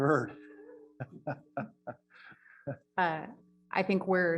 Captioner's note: laughs